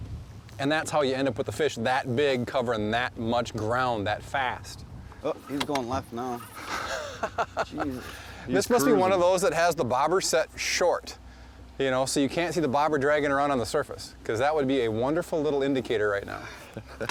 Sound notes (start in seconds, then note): 6.5 laughs